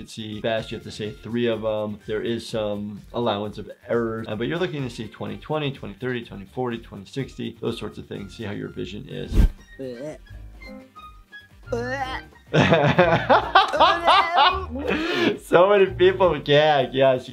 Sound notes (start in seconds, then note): 9.8 Panda Bear gagging; 12.5 laughing